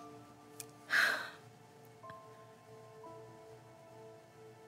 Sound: Annabelle sighs

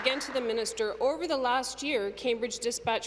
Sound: applause

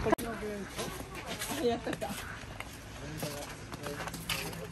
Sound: laughs

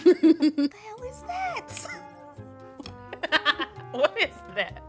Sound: laughs; laughs

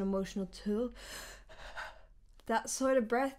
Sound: breath sounds

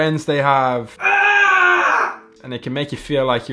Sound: man screaming

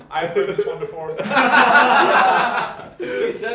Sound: team laughs

